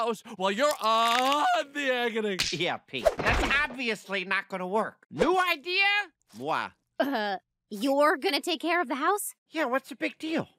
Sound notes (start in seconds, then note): none